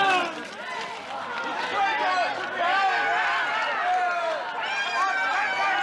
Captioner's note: crowd yelling and jeering